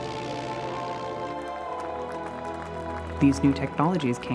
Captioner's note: crowd applauding